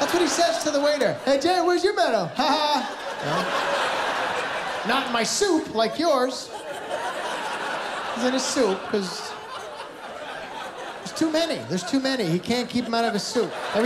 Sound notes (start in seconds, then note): 3.5 laughter